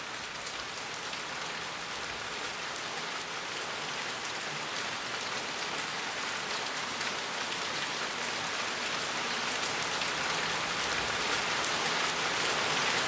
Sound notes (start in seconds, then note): none